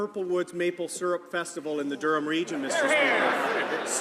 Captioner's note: some laughter